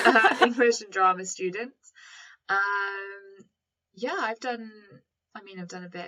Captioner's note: laughter